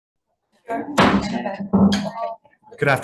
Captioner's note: gavel bangs